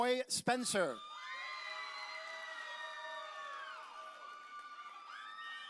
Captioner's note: audience cheering